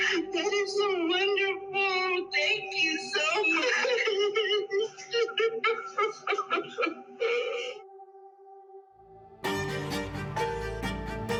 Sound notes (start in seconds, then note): 5.3 sobbing; 9.2 dramatic music plays